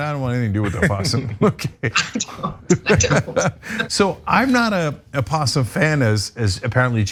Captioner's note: laugh